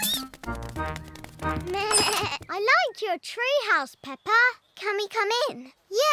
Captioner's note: bleats